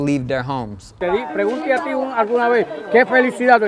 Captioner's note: spanish dialogue